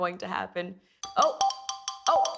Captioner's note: breaking news chime